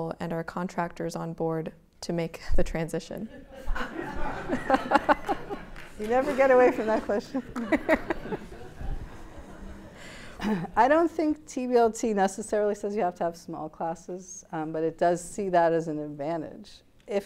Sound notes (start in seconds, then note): 3.2 laughter